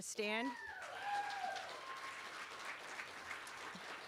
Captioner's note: cheering